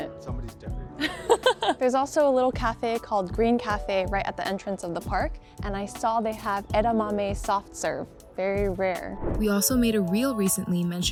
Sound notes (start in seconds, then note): 1.0 chuckles